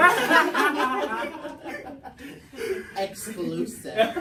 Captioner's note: everyone laughs